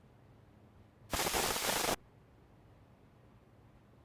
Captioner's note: static crackling